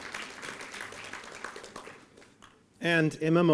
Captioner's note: applause